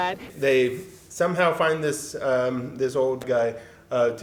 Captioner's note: none